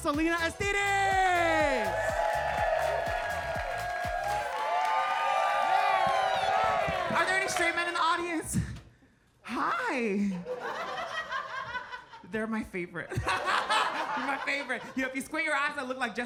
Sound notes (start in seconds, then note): 1.8 audience cheering and clapping; 10.6 audience laughs